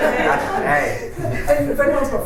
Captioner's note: laughter